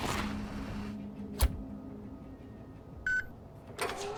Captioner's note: engine rumbles, tires rub; mechanical click and whirring